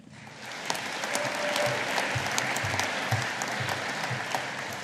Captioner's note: audience applauding